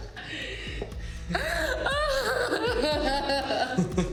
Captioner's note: Mia crying; Ben laughing